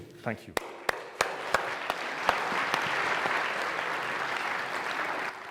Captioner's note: audience clapping